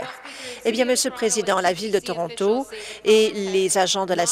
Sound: applause

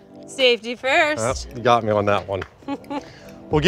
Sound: chuckles

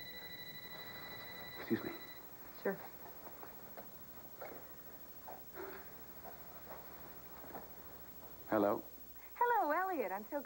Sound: telephone rings

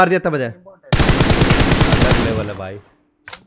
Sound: gunshots

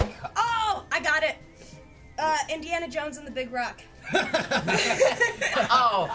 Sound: laughing

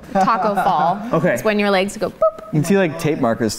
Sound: boop

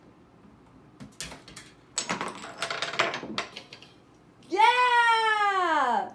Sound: objects clattering

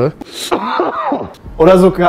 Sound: cough

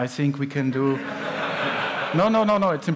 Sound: laughter

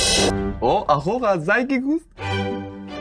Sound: speaking German

